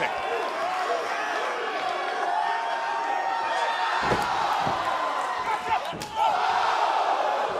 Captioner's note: cheers & applause